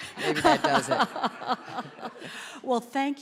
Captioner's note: laughter